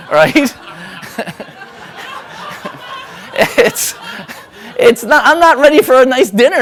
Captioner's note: audience laughing